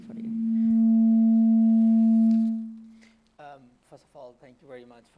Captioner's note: static buzzing